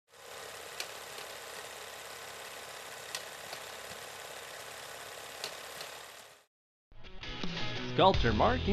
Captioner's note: film reel spinning